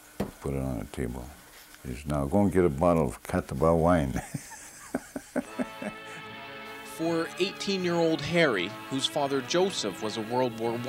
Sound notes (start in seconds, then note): 4.1 laughs